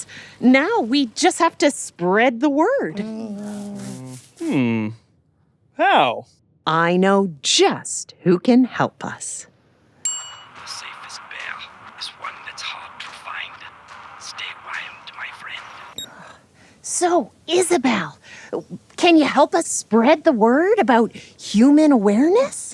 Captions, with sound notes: Now we just have to spread the word. Hmm. How? I know just who can help us. [Ding] [Voice on phone] The safest bear is one that’s hard to find. Stay wild, my friend. [Phone beeps] So, Isabelle! Can you help us spread the word about human awareness?